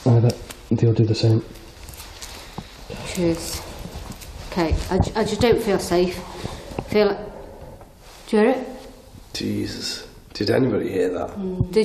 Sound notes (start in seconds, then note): 6.7 faint growl